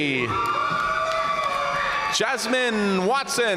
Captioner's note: audience cheering and applauding